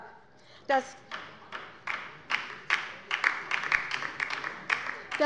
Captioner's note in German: Beifall bei der LINKEN